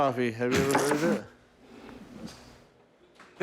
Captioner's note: spits